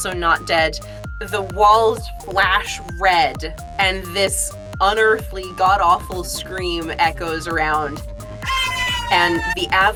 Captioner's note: AI scream